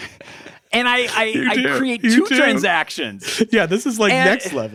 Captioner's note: laughing; laughs